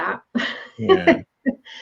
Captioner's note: laughs